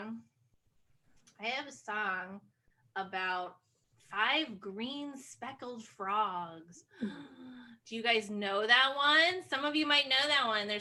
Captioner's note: gasp